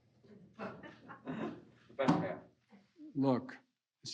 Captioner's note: laughter